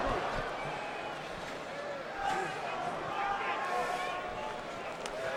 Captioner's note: crowd murmuring